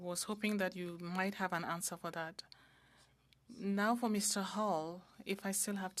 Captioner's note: speaking French